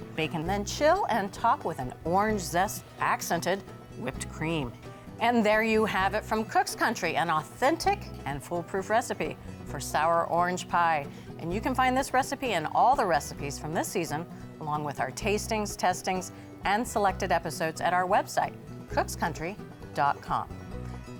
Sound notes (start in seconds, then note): none